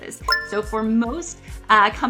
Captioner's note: retro gaming beep sound